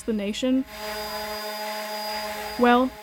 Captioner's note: machine whirring